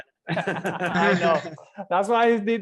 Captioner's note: all laughing